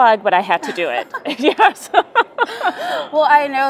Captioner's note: laughter